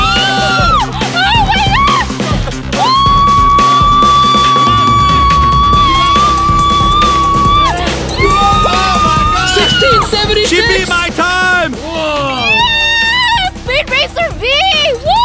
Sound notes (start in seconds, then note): 2.7 screaming